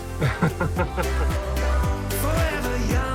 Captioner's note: laughs